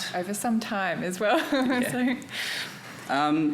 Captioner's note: chuckles